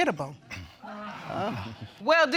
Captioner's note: audience gasps